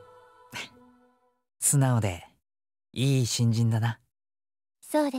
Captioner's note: chuckle